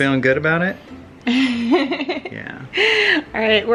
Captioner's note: laughing